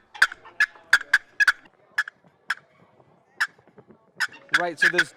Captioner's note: turkey call clucking